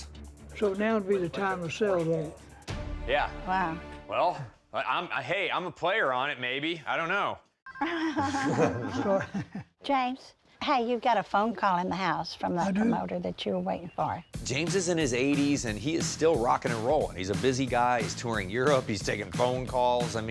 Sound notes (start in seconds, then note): 7.8 laughing; 9.0 phone ringing